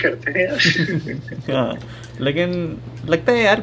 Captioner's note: laughter